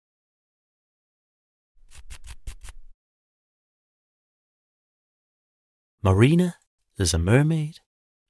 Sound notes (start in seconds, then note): 1.8 scratching